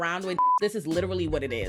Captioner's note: beep